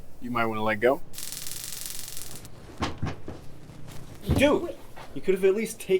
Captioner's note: electricity zapping